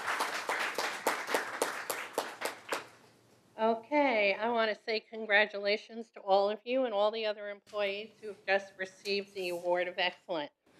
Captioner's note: applause